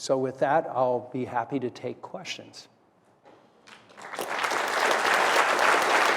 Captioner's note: applause